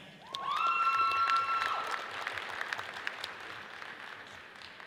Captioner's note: audience cheers and applauds